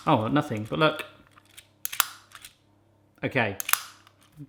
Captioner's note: clicking